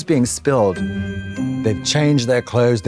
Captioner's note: festive chime